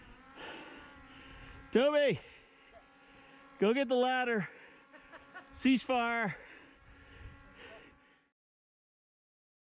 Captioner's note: laughing below